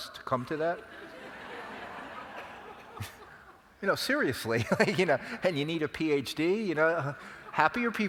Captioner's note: laugh